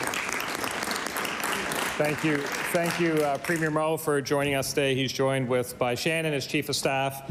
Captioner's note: cheering/Applause